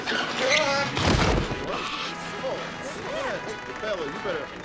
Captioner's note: people chattering